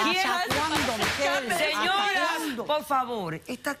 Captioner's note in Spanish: Hablan al unísono